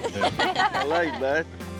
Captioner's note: everybody laughs